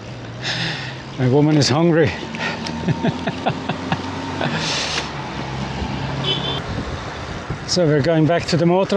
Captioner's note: laughter